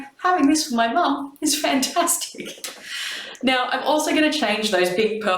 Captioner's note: laughs